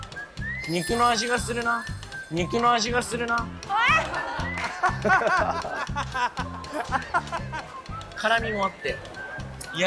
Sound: laughter

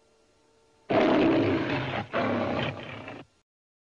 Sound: Leo the Lion roaring

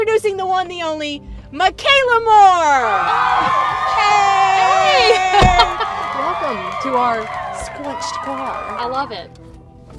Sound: applause

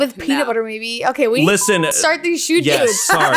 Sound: beep

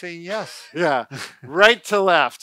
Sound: laughter

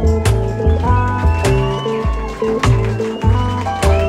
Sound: crowd cheers, applauds

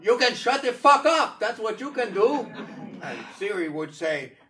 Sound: audience laughing

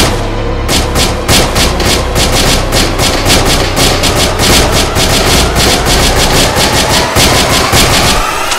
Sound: gun fire

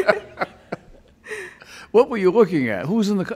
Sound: laughing loudly

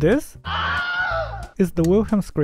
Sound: man screaming

